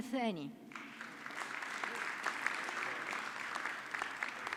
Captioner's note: audience clapping